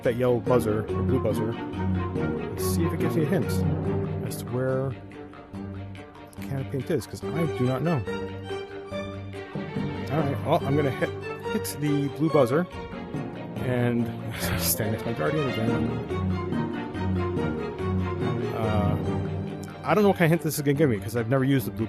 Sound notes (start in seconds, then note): 12.8 laughs